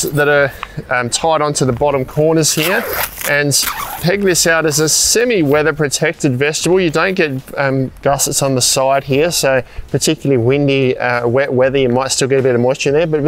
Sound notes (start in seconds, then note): 2.5 zips screeching